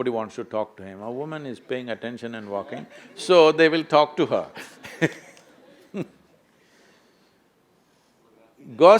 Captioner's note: laughs